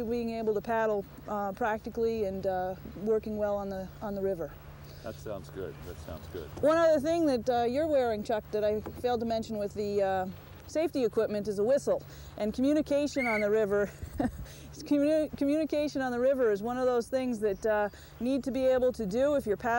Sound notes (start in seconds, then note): 13.1 whistling; 13.8 chuckles